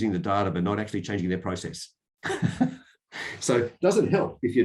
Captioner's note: laughs